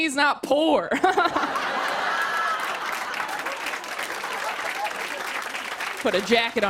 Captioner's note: laughter and applause